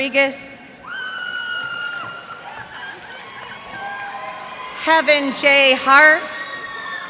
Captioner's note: cheers and applause